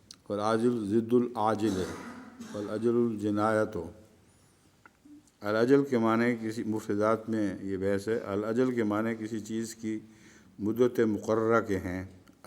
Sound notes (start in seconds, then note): 2.3 Arabic